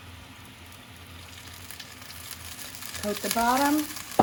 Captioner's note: pan sizzling